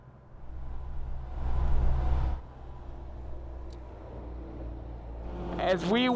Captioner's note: cars passing